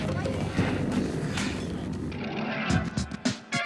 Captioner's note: panting